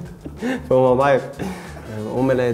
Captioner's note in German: lacht